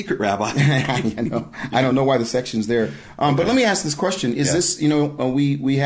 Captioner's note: laughing